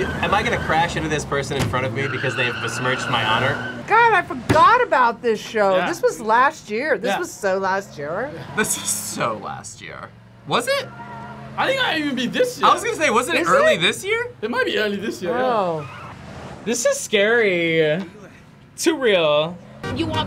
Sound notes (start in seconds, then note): 8.8 laughs